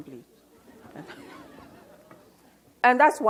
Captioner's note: audience laughs